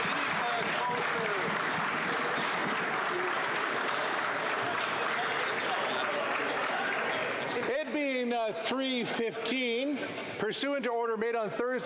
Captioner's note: some Applause